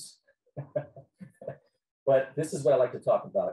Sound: laughing

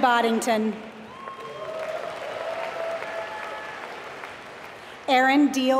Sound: applause

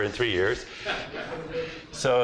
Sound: laughter

